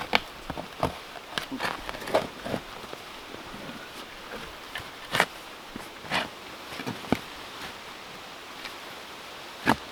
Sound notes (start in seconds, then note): 0.0 tree roots crunching; 6.0 shovel rasping